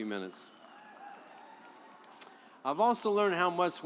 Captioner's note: audience applauds